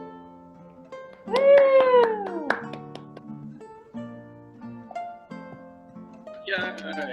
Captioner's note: claps